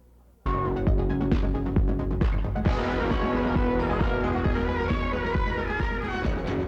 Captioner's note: upbeat music; graphics whooshing